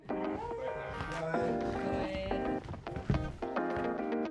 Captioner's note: ♫ Intro music ♫; background conversations; ♫ Intro music ♫